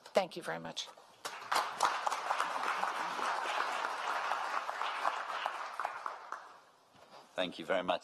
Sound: applause

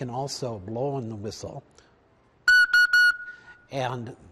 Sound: whistle blow

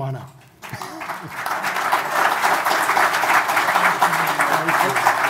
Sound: audience applauding

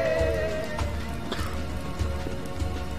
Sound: coughs

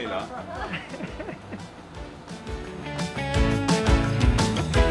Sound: camera man laughing; upbeat music

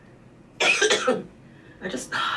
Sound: coughs

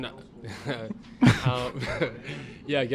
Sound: laughs

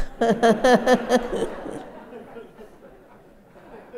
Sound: laughter

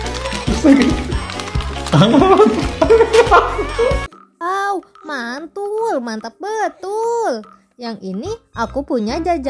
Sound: applause

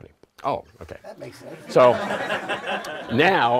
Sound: laughter

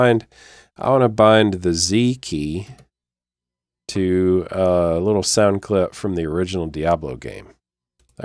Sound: click

